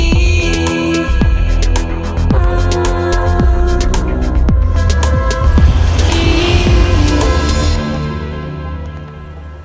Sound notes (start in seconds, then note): 4.7 very loud engine sounds